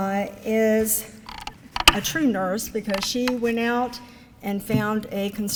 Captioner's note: none